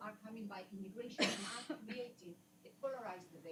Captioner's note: coughs